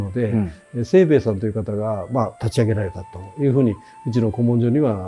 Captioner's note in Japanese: 咳払い